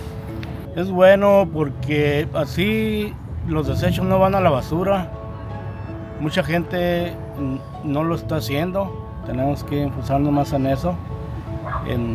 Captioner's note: Spanish language